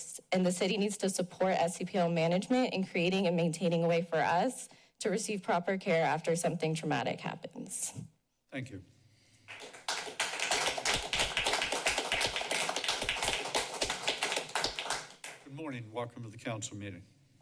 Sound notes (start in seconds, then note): 9.5 applause